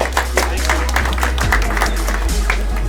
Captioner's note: applause